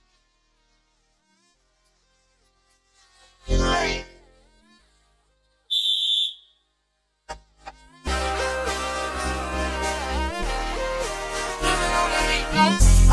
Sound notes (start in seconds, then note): 5.7 blows whistle